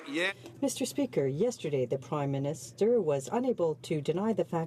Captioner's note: some Applause